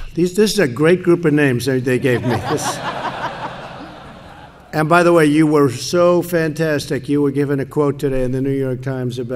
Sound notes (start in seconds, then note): 1.9 laughter